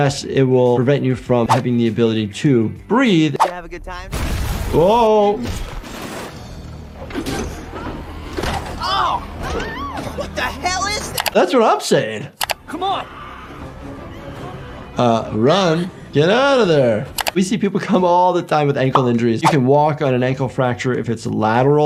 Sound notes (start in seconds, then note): 3.6 building explodes; 8.6 people exclaiming